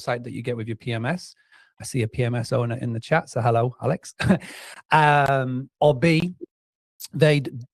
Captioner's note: laughs